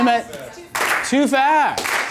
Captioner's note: voiceover